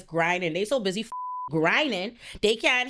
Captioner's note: beep